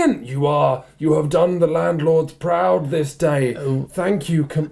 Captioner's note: husky voice